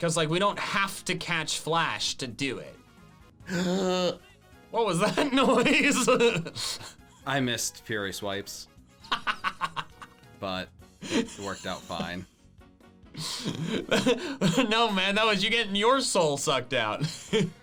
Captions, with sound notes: - 'Cause we don't have to catch flash to do it. (gasping) What was that noise? (laughs) - I missed Fury Swipes. (laughing) But it's worked out fine. - No, man, that was you getting your soul sucked out.